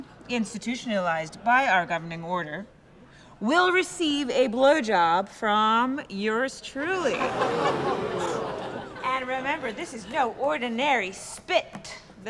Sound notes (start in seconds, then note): 6.9 laughter and murmurs